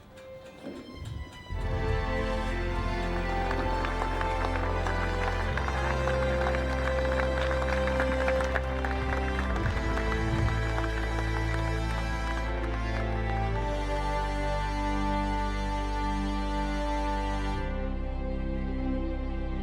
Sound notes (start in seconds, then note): 3.0 emotional music; 6.3 audience applauding; 6.3 emotional music; 16.6 emotional music